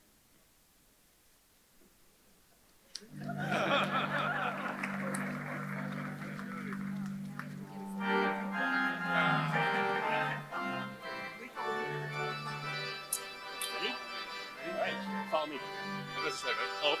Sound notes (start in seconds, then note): 3.1 audience laughs; 3.1 audience claps; 9.0 mid-tempo band music